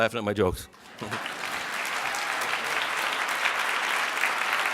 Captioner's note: audience applauds